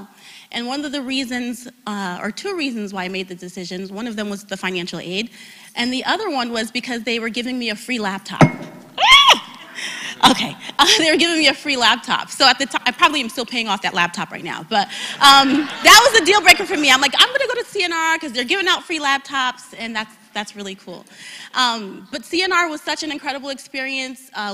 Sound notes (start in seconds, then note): 14.4 laugh